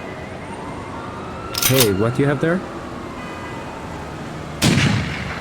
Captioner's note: gun clicking; gun firing